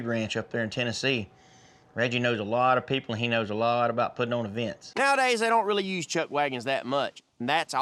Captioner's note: none